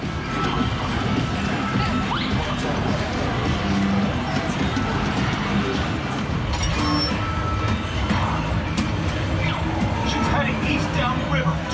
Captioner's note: arcade noise